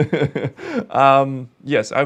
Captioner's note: laughs